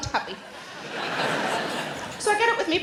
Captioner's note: audience laughing